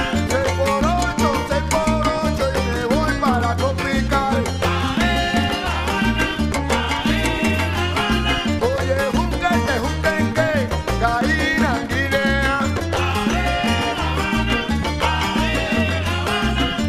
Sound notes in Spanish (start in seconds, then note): 8.6 Lenguaje indígena